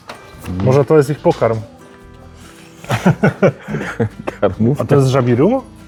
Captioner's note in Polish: śmiech